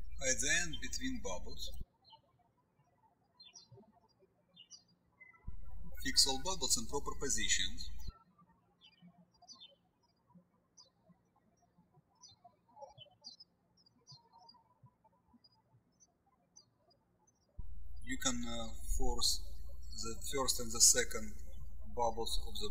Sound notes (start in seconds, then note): 8.7 birds chirping